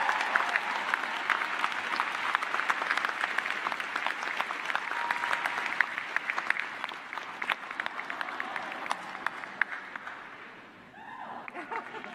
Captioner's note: applause